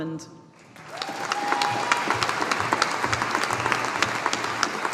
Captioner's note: audience applauding